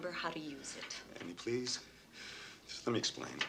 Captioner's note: breathes heavily